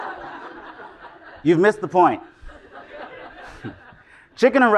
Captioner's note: laugh